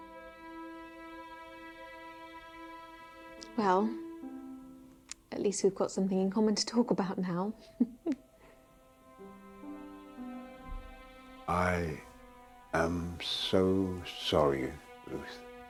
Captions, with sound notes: Well, at least we've got something in common to talk about now. (chuckling) - I am so sorry, Ruth.